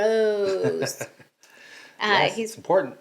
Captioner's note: laughing